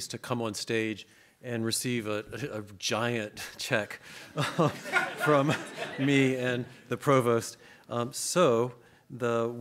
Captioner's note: audience laughs